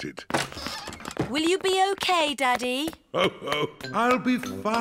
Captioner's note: laughs